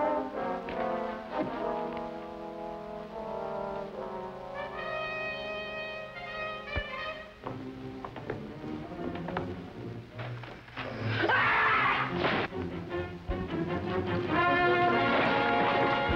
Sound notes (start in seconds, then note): none